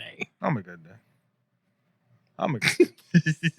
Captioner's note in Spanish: Hablando en idioma extranjero